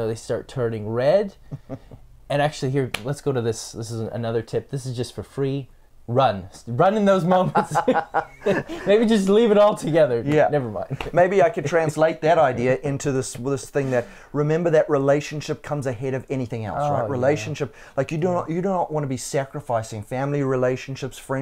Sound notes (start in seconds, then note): 7.4 both laughs